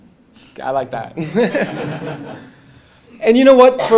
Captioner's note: laugh